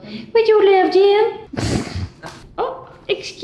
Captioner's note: laughing